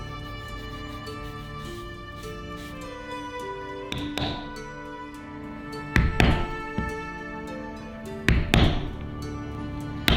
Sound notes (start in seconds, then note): 4.1 mallet pounding